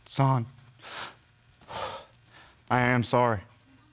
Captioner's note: strangled sigh